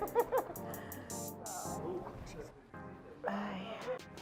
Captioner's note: groaning